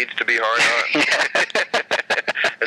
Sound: laughing

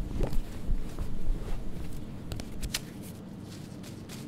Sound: notebook being opened

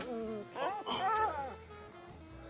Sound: dog whines

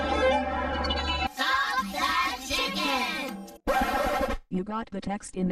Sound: record scratches

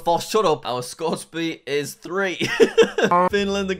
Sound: laughs

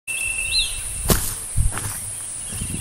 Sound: footsteps

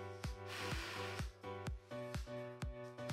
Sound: exhales

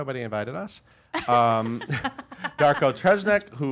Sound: laughter

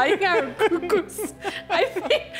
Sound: laughing

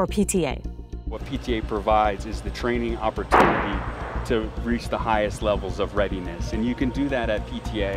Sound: bang

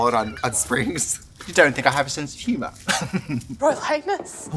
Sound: chuckles

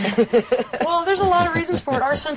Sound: all laughing

